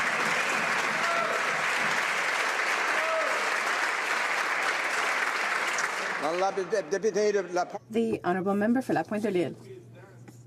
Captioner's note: some Applause